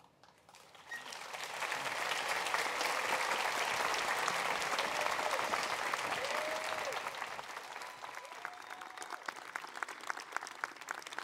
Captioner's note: applause